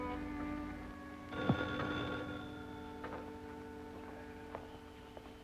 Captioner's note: phone ringing